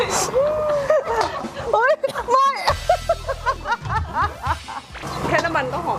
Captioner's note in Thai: เสียงหัวเราะ